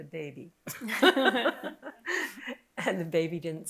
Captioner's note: laughing